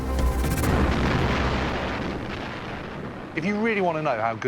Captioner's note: explosions